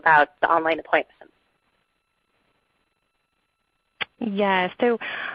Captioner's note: silence